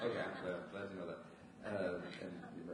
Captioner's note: audience laughs